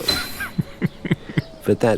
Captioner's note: laughing